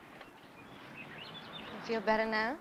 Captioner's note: birds chirping